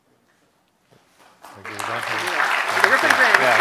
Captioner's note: applause